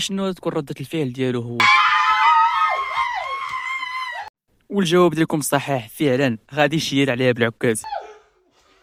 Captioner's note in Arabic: صراخ